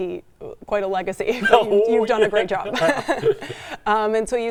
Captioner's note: both laugh